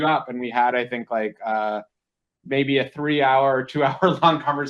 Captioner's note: laughs